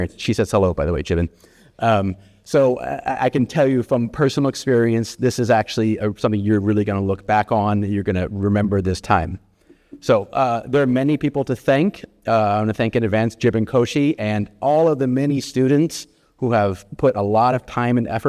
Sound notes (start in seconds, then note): none